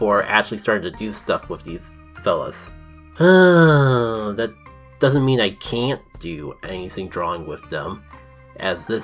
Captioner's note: medium sigh